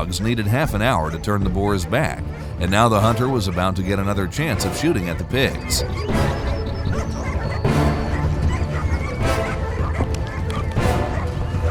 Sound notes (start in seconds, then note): 7.0 dogs barking; 7.0 dramatic music